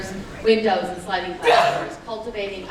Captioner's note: intense scream